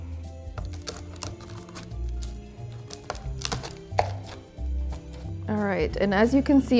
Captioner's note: light music continues; toffee crunching